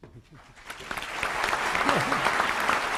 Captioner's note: applause